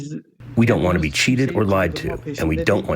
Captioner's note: through translator